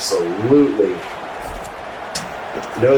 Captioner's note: crowd Noises